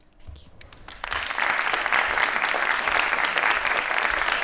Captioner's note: applause